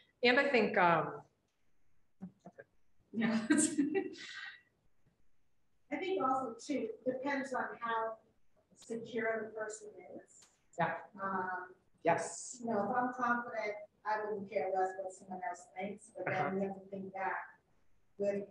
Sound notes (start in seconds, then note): 3.2 laughing